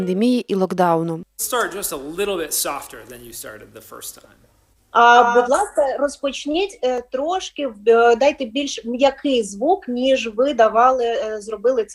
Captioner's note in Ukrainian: Видео мастер-класса, говорить англійською